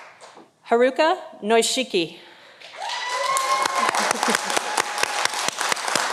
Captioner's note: audience applauding